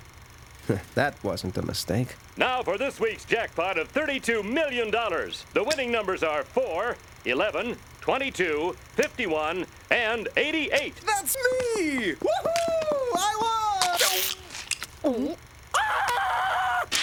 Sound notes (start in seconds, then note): 13.5 chewing and swallowing; 15.7 screaming